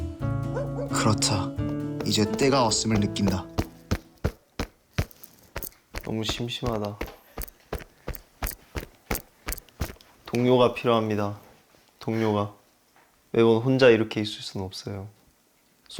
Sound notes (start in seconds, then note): 3.8 tap tap tap tap tap; 7.3 tap tap tap tap tap